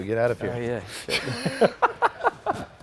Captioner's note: laughs